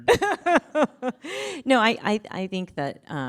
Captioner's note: chuckles